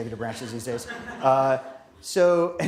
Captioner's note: laughter